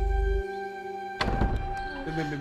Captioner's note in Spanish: Sonido al abrir la puerta